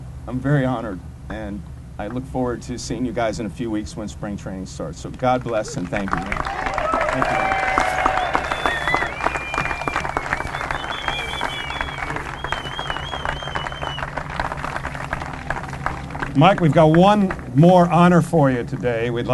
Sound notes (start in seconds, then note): 7.7 applause and whistles